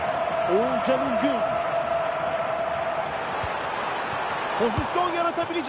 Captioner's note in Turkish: coşkulu tezahürat